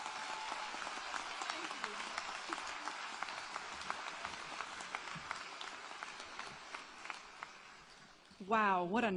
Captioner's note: applause